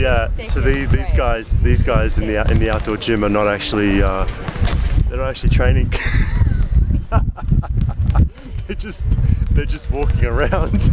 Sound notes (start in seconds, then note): 6.0 laughing; 10.7 laughing